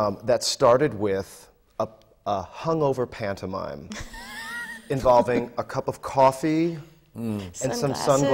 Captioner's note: laughs